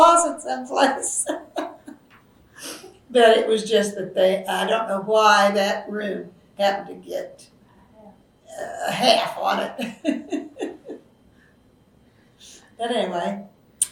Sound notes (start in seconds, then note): 0.0 laughs; 8.5 laughs